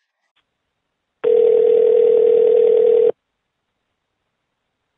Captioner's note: phone ringing